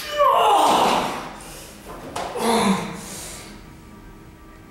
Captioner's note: oouugghhh!!!